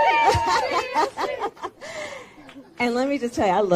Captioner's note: laughs